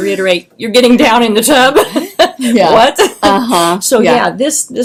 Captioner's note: laughs